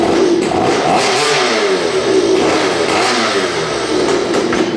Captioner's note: engine revving